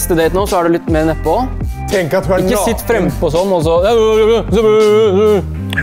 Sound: male voices

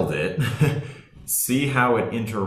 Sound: laughing

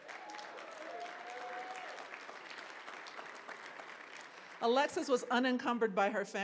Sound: applause

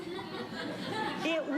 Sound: audience laughing

